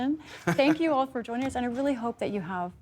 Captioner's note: laughter